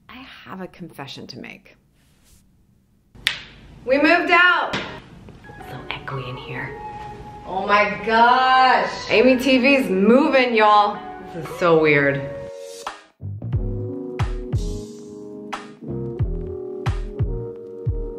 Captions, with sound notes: I have a confession to make. (snap) We moved out! So echoey in here. Oh my gosh, AmyTV is moving y'all. This is so weird. (upbeat music)